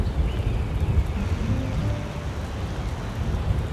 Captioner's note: thunder Rumbling